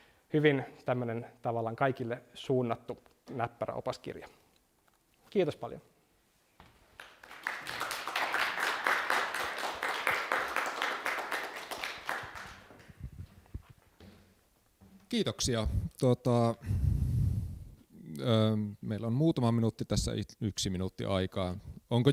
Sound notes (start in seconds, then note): 6.9 applause